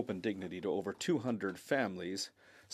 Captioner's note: speaking French